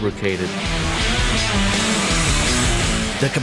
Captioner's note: grinding sound; upbeat music